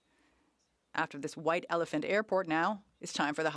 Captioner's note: speaking French